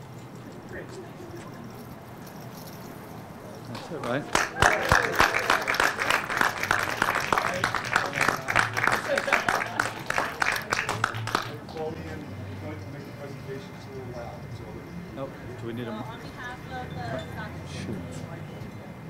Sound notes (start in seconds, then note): 4.2 applause